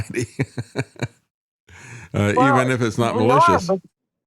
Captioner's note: laughs